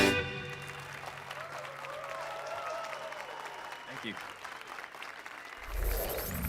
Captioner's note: applause and cheers